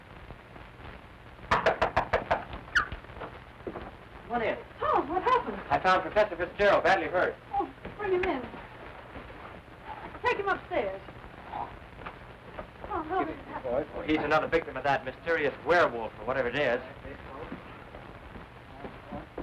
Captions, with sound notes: (knocking on dor) - Come on in. - Tom what happened? - I found Professor Fitzgerald badly hurt. - Oh, bring him in. Take him upstairs. Tom, how did it happen? - He's another victim of that mysterious werewolf or whatever it is.